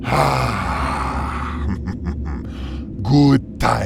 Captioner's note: snickers evilly